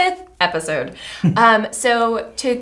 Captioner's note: chuckles